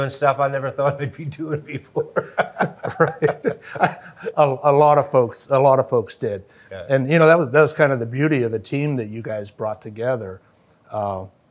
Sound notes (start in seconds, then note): 0.7 laughs; 0.8 chuckles